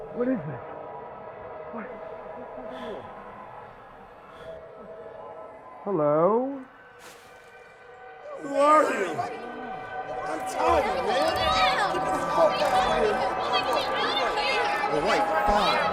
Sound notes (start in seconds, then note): 9.6 chattering